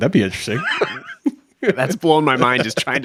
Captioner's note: chuckles